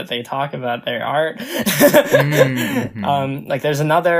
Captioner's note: laughs